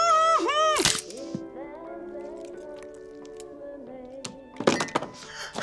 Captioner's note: crunch